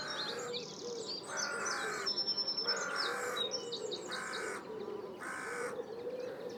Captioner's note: crow calls